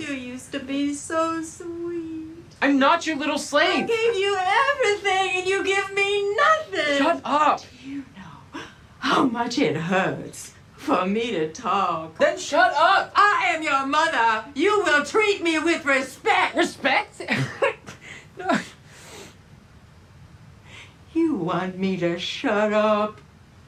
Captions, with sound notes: - You used to be so sweet. - I'm not your little slave. - I gave you everything and you give nothing. - Shut up! - Do you know how much it hurts for me to talk? - Then shut up! - I am your mother! You will treat me with respect! - Respect? (laughs) - You want me to shut up?